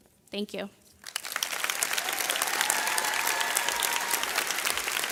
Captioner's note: audience clapping